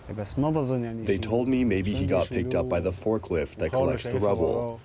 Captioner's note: through translator